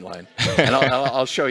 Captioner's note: laughter